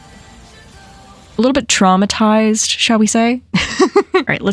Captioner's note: laughs